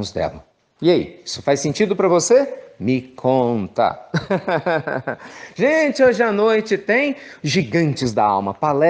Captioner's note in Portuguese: risos